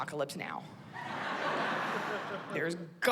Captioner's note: laughter